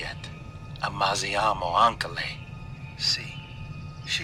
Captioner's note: Lou speaking in Italian